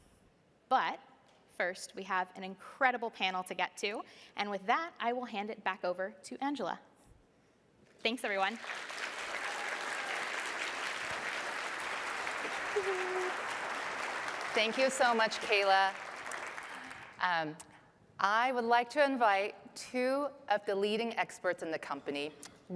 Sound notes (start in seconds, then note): 11.6 applause